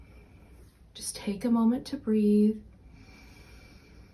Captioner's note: breaths